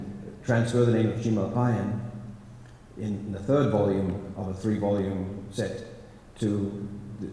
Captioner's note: non-english